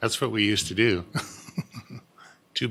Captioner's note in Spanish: Risas